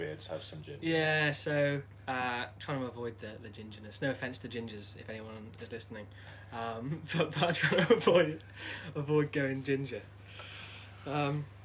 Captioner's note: laughter